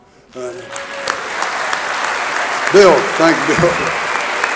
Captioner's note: audience applauding